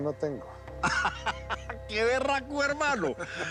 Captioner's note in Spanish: Risas